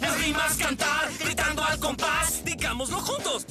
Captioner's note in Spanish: Gritando al compas